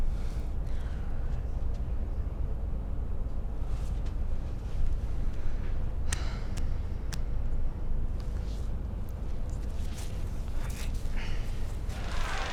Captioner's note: crowd cheering